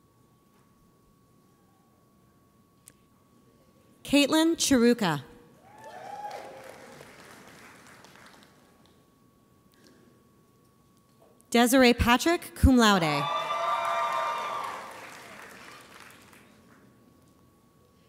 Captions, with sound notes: Caitlyn Cheruka. (audience applauds) Desiree Patrick, cum laude. (audience cheers)